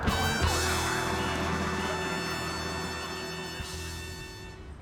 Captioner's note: sirens blaring; police whistling